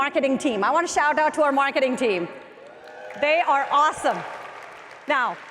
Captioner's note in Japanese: マーケティングチームの歓声